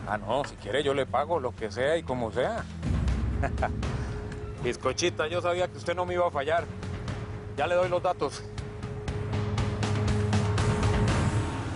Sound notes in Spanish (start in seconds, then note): 3.4 Ríe